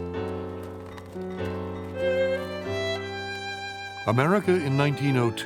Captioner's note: bells clanging